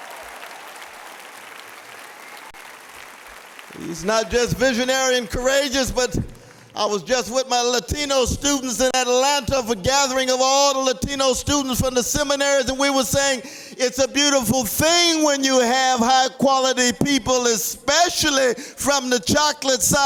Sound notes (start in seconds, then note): 3.6 applause